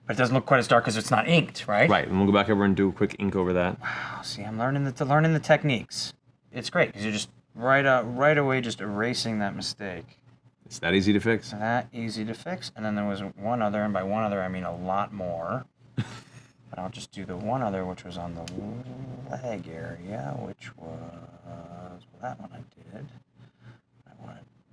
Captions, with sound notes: But it doesn't look quite as dark because it's not inked, right? Right, and we'll go back over and do a quick ink over that. Wow, see I'm learning the techniques. It's great because you're just right away just erasing that mistake. It's that easy to fix. That easy to fix, and then there was one other, and by one other I mean a lot more. (chuckles) And I'll just do the one other, which was on the leg area, which was that one I did, I wanted that.